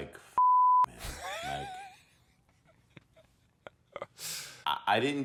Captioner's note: laughs